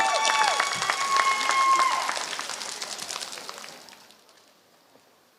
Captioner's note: applause